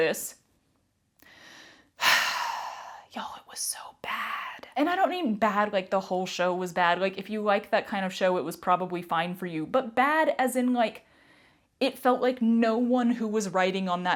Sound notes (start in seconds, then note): 1.3 sigh; 3.1 whispered